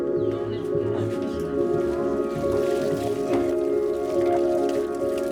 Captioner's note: chatter